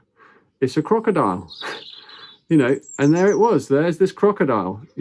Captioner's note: chuckles